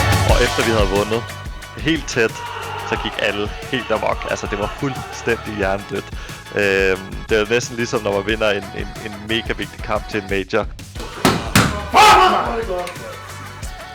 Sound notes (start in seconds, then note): 11.0 smacks door